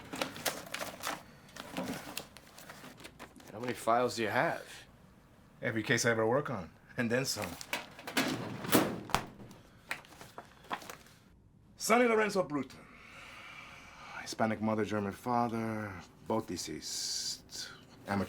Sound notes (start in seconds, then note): 0.0 drawer clatters open; 0.0 file folders rustling; 7.4 file folder thuds; 7.7 drawer clatters shut; 9.8 pages rustling